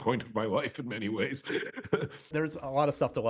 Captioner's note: chuckles